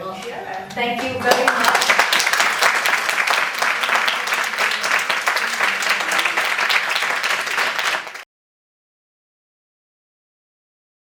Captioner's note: crowd applauds